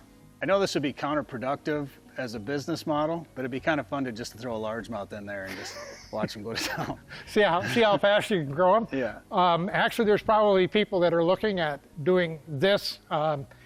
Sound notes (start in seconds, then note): 5.4 both chuckle